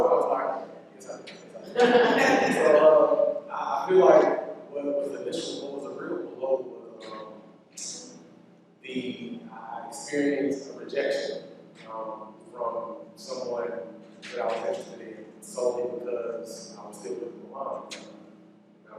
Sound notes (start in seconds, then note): 1.7 laughter